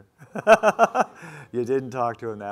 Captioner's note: laughing